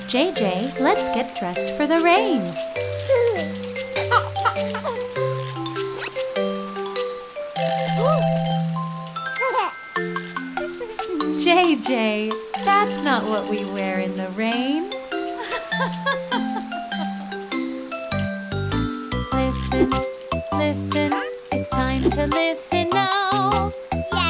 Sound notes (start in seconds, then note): 4.0 chuckling; 5.8 zipping; 6.1 gasping; 10.5 chuckling; 15.2 chuckling